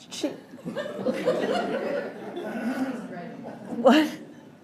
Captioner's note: laughter